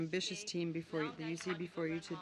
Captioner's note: speaking French